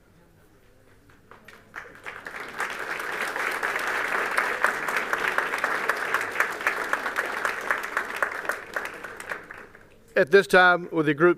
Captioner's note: applause